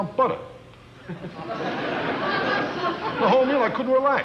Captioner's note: audience laughing